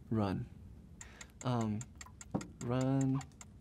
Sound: timer ticking

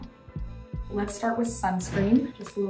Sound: image whooshing

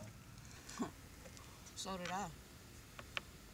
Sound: scoffing

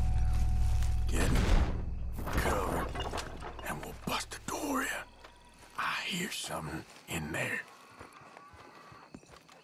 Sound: whispering to John

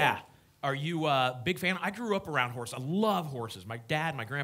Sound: none

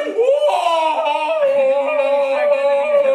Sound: inarticulate yelling

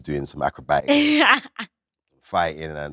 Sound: Letitia laughs

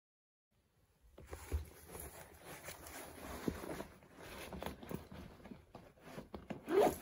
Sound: shuffling; zipping up the backpack

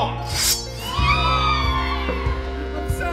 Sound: monster minions squeal

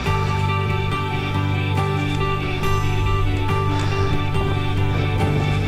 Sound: breathing heavily

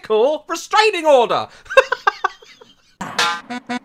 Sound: laughs; terrible Saxophone

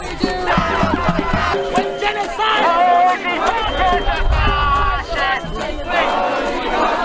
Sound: chanting various

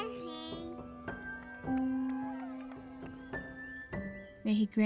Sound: baby mumbling; cheering, clapping, whistling

